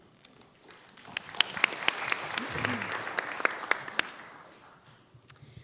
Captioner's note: clapping